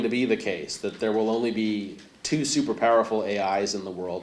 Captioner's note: none